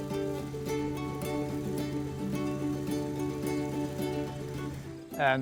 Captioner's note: gentle music; tractor whirring